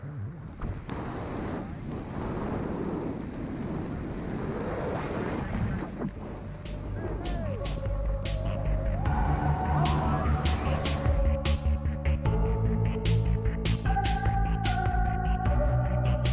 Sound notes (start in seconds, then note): 1.8 wind howling